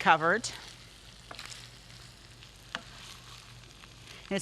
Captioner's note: stirring